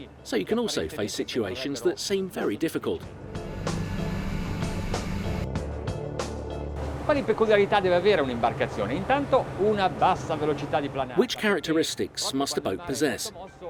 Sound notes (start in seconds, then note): 3.1 dramatic music; 7.6 speaking in foreign language